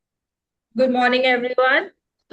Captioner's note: Hindi